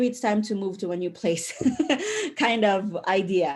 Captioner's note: chuckles